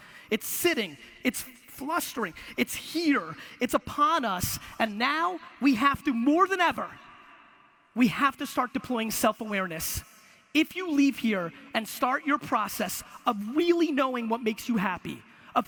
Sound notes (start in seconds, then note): none